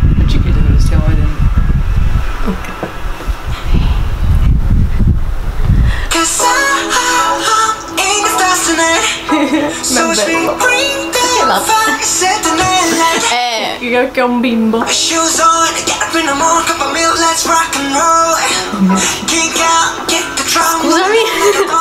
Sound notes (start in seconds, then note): 9.2 nervous laughter